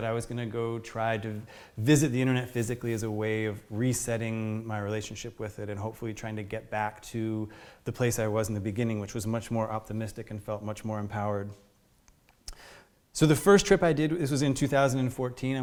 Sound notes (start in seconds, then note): none